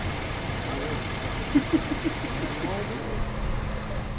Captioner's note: laughing